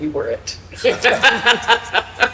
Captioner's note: both laughing